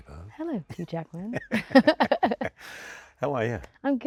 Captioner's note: both laughing